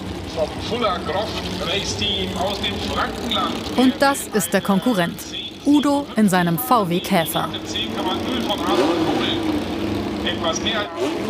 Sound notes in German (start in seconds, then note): 7.6 Motorengeräusche, Lautsprecherdurchsage